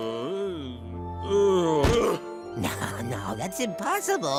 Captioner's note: groaning